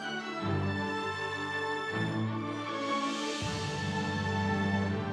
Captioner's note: audience cheering